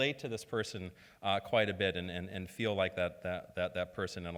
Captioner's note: none